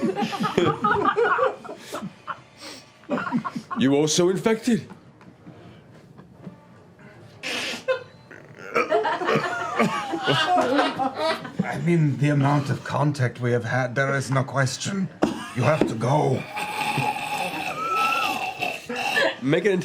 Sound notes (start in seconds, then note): 1.9 laughter; 16.3 dying noises